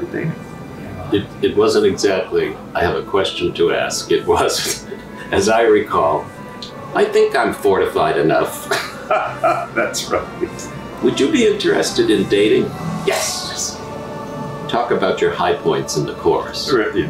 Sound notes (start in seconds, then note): 8.5 laughs